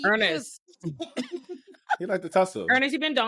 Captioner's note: laughing